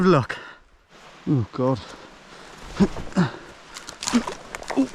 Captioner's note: grunting